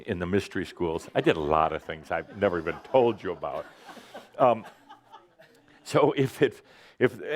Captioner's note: some laughter